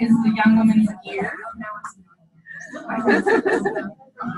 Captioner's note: overlapping chatter